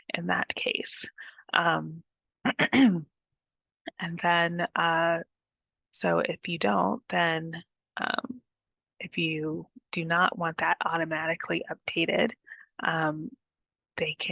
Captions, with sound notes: in that case. [CLEARS THROAT] So if you don't, if you do not want that automatically updated, they